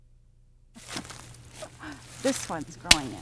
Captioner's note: leaves rustling